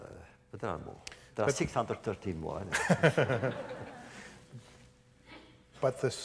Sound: laughter

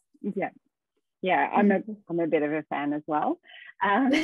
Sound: chuckles; laughing

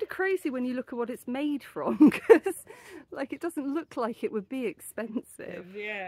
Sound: laughing

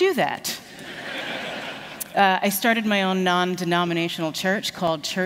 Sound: laughter

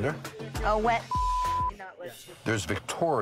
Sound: beep

